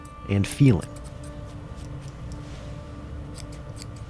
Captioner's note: scissors snipping